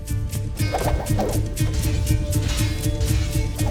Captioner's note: weapons clanging & swishing; swords swoosh